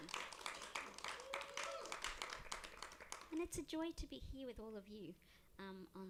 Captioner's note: applause